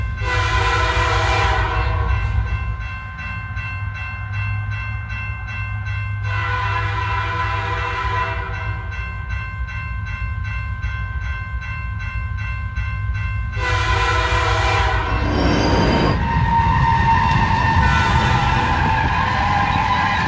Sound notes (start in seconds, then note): 2.8 bell dinging; 2.8 train whistle blaring; 10.8 bell dinging; 10.8 train whistle blaring; 16.7 train rumbling and screeching